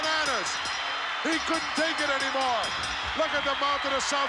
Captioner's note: bell ringing